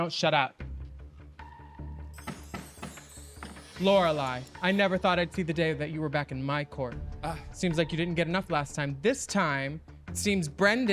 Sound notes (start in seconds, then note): 0.7 mystical music; 1.6 gavel tapping